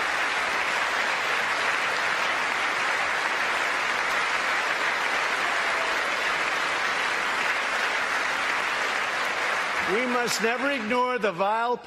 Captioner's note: applause